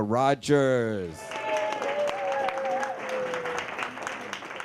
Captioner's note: audience cheering